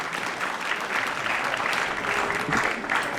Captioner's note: applause